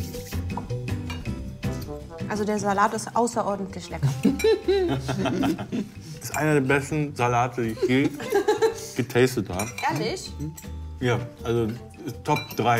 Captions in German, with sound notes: Der Salat ist außerordentlich lecker. (Lachen) Einer der besten Salate, die ich je getastet hab. Ehrlich? - Ja, also ... Top drei.